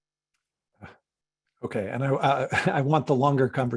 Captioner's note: chuckles